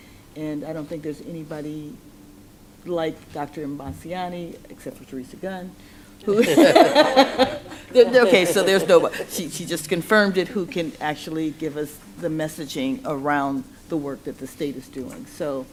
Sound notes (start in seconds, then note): 6.3 laughter